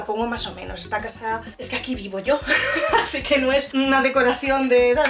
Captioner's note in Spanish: risas